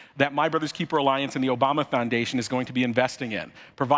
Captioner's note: none